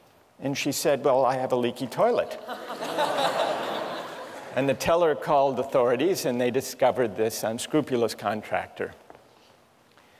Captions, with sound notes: And she said, well, I have a leaky toilet. [LAUGHTER] And the teller called the authorities. And they discovered this unscrupulous contractor.